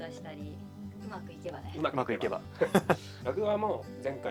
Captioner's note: laughs